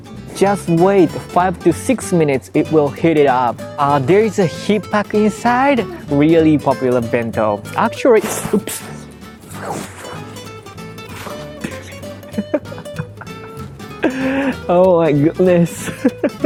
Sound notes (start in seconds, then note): 8.6 winces; 10.9 laughs; 11.5 whispers